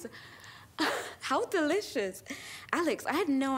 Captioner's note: laughs